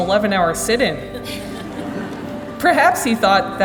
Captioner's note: laughing